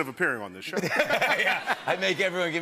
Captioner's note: laughter